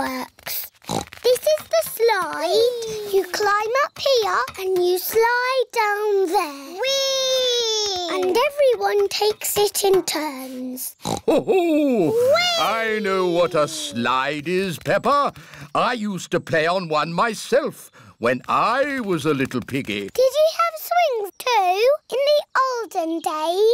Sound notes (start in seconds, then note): 0.8 oinks; 11.0 oinks